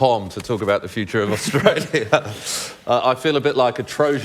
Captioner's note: laughs